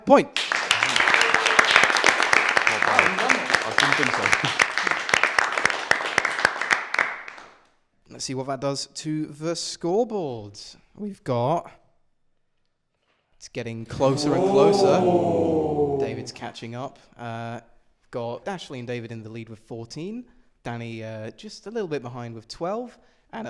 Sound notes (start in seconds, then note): 0.2 applause; 13.9 they ooh